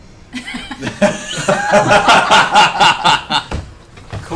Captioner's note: laughter